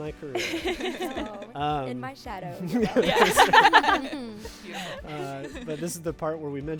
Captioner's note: group laughing